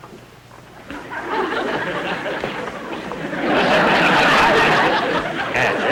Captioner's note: audience Laughing